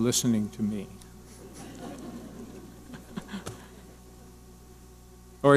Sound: audience laughing

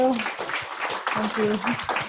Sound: audience applauds

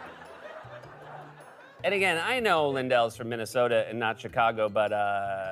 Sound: laughter; normal voice

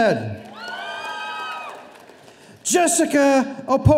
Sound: audience cheering

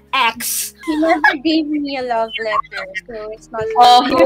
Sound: laughing

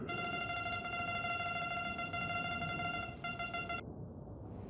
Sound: beeping

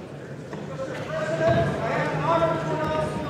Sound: gavel

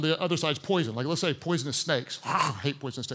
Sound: hisses

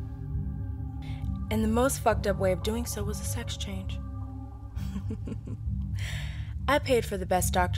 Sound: snickering

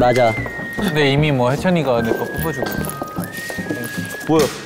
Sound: sassy

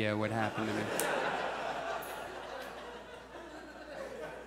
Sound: audience laughs

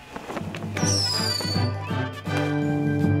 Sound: sparklers whistling

